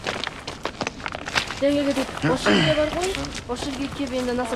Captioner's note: woman speaks in Mongolian